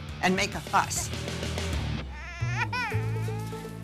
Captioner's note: baby fussing